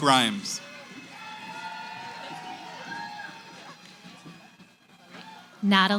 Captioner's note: cheering